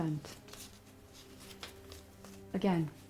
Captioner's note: paper rustling